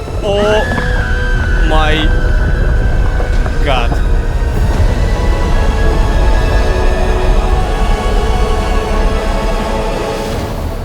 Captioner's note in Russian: Крик